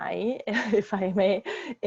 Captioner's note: chuckles